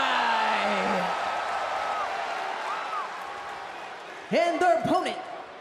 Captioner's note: crowd cheers